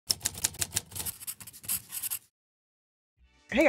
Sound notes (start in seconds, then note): 0.1 typewriter pattering; 0.1 pen scratching on paper